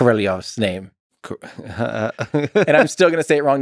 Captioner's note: Lex laughs